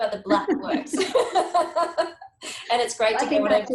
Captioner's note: speakers laugh